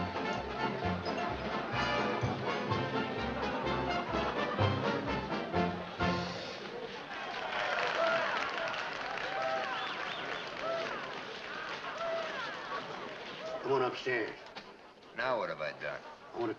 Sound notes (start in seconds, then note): 7.3 cheers & applause